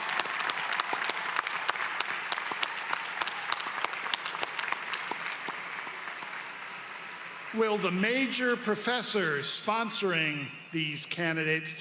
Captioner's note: applause